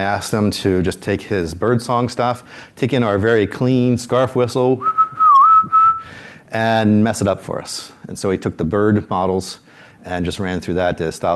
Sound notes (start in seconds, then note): 4.8 whistles